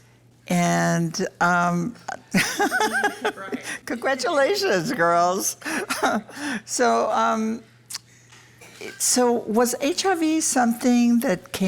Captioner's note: laughs